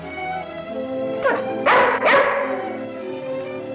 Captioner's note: barking